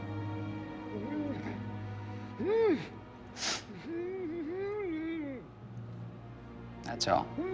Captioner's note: male executioner grunting